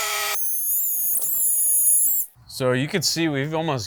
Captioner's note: tape forwards